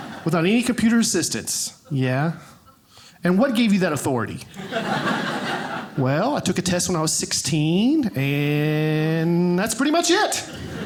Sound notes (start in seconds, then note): 4.5 audience laughing